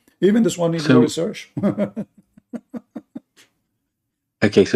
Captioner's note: Ketawa